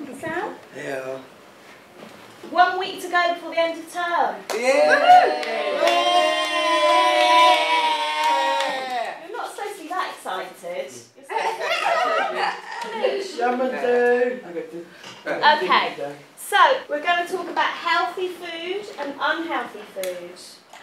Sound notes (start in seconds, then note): 11.4 class laughs